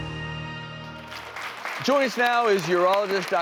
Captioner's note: audience clapping